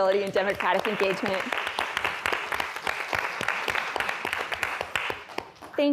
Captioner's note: applause